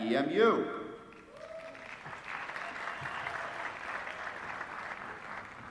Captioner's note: applause